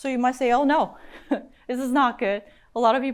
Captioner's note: chuckles